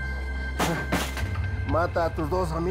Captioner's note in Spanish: Ruido al tirar el bulto